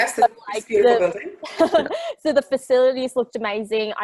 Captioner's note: chuckles